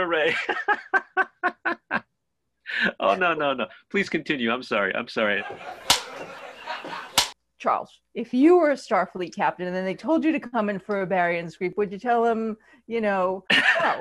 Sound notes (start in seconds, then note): 1.6 laughing; 6.4 click